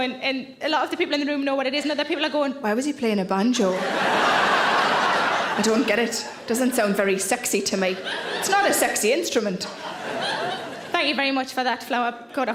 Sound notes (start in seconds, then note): 3.7 audience laughs